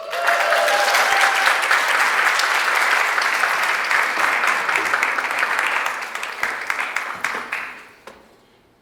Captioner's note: audience applauds and cheers